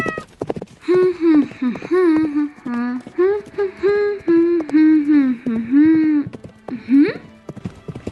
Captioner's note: humms